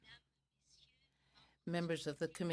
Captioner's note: speaking in french